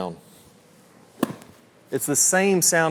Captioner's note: club swishes